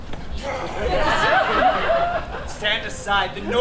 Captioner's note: Puck growls; audience laughs